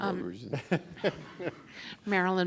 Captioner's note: laughs